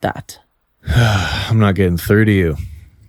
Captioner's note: sighs